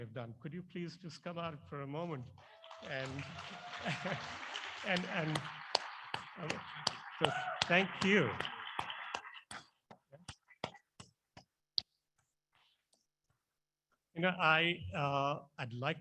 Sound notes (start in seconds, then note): 10.2 applause